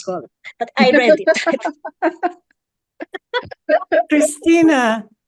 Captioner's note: panelists laugh